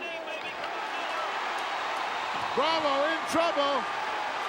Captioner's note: crowd cheering